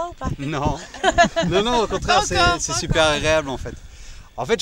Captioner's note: laughs